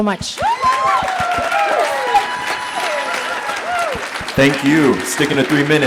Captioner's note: audience applauding